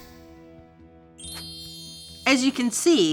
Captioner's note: reaction chimes